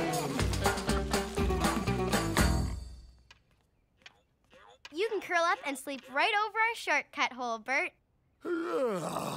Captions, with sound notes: You can curl up and sleep right over our shortcut hole, Bert. (Yawning) Looks comfy.